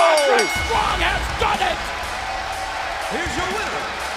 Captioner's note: bell ringing